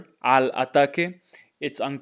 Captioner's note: speaking in Spanish